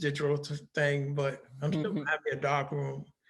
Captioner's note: laughing